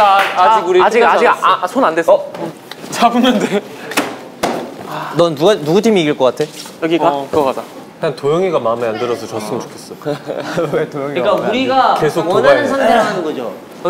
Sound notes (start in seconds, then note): 9.9 laughing